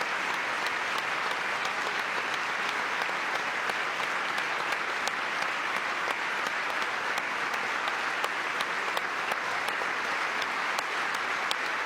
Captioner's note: applause